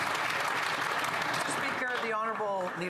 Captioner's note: some Applause